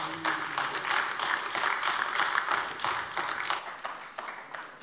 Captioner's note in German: Beifall AfD